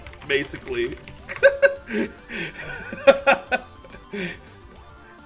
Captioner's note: joyous laughter